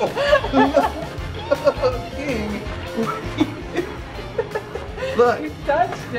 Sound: laughs

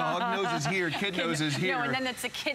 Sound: laughter

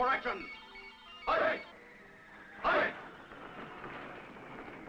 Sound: troops chanting

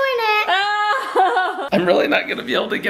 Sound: laughter

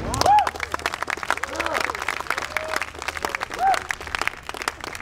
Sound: audience applauds

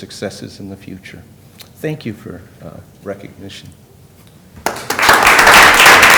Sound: applause

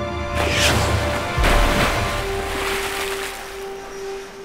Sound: large splash

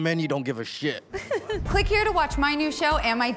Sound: laughs

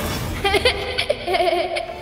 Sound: laughing

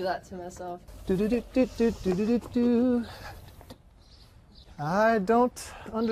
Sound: humming

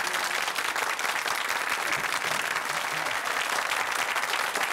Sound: audience clapping

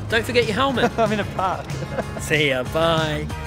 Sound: laughs

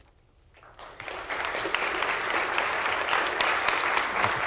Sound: audience claps

